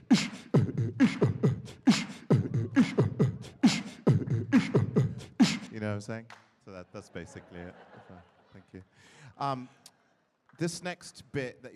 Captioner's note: beat boxing